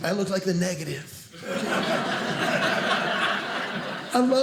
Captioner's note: audience laughing